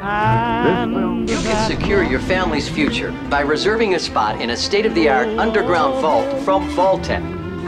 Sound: television

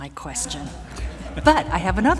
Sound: laughter

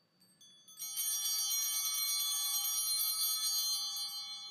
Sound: chimes ringing

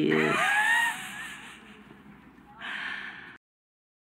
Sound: Sunny laughs

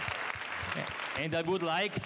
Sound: applause

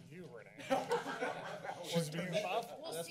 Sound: laughter

